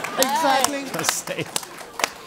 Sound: applause; laugh

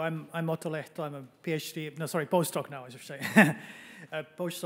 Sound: chuckles

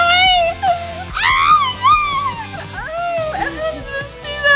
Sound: squeals

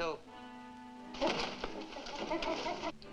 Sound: gorilla chittering

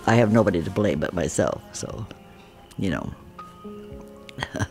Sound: laughs

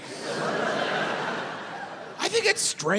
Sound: audience laughs

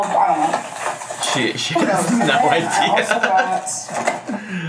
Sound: laughs

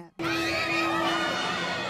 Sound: Nat hulk screams

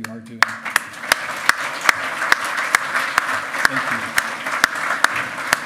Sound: loud clapping

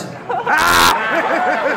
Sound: laughter

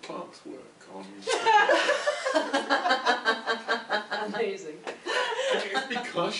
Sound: laughter

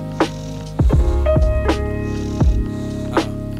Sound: snoring

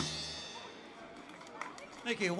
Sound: crowd applauds

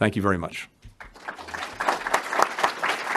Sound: applause

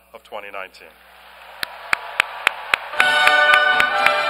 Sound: applause

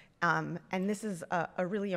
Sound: none

